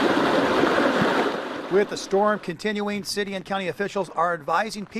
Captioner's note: hard rain falling